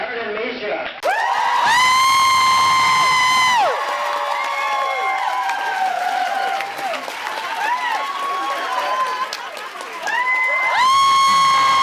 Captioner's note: audience cheers, screams, applauds